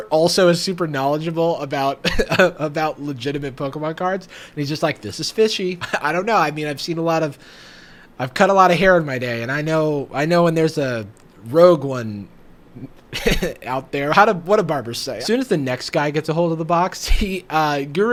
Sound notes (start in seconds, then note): 2.1 laughs; 5.8 laughs; 13.2 laughs